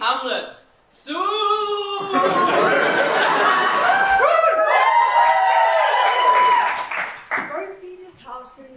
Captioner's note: audience clapping